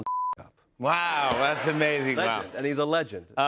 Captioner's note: audience laughs